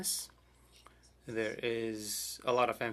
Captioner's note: speaking French